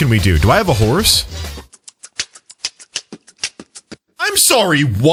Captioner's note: Link beatboxes